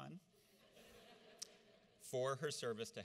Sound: audience laughs

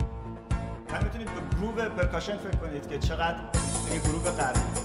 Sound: speaking in farsi

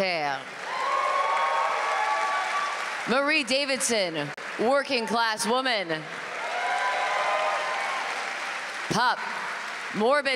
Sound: applause

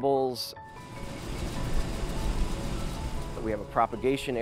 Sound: fan whirs

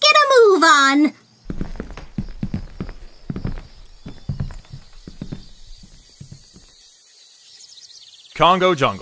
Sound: footsteps on wood trail off

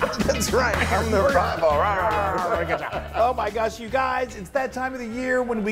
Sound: laugh

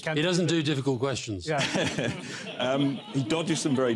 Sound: laughter

